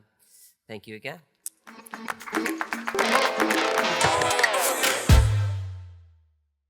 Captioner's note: audience applauding; upbeat music